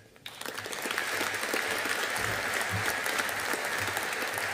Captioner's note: audience applauding